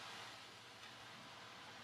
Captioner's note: none